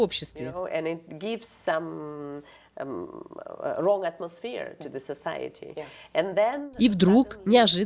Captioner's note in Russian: Разговаривают на английском